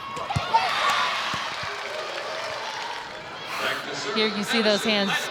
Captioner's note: audience cheering; ball thumping